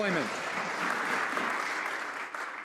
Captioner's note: some Applause